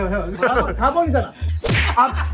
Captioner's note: slap!